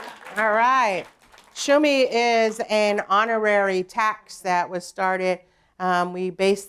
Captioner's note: applause